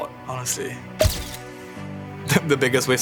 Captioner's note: pop